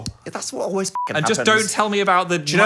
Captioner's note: beep